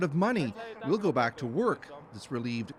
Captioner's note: speaking Foreign Language